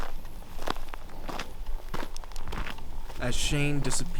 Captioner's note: gravel crunching